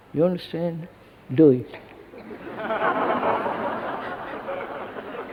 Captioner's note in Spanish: Risas